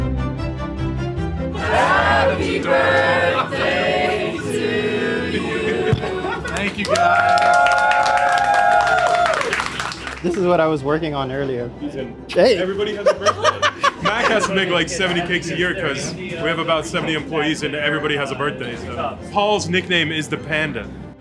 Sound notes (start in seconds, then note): 7.6 staff cheers; 12.9 laughs